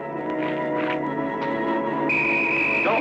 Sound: whistle blowing

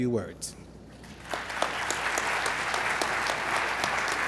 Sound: applause

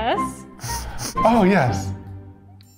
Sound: sniffing

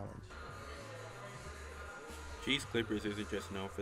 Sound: background indistinct chatter

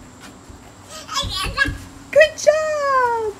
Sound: babbling excitedly

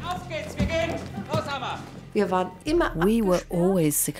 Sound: speaks in foreign language

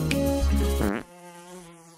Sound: fart

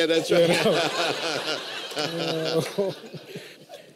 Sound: laughter

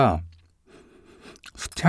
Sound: sniff sniff

